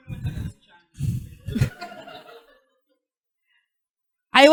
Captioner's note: chuckling